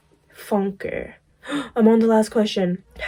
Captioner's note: gasp